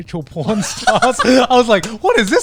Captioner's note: laughing